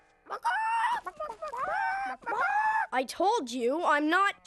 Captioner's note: clucking